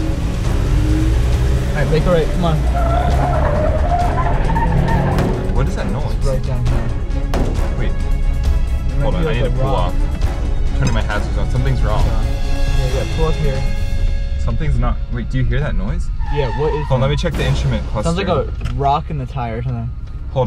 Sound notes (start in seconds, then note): 4.7 knocking; 7.4 bumping